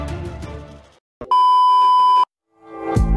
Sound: beep

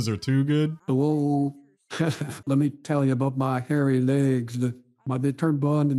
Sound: AI Biden voice changer

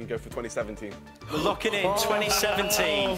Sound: gasping

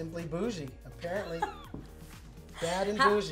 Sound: laughing

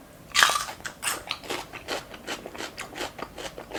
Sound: crunchy

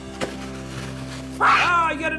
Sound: tearing paper

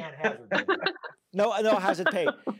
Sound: participants laughing

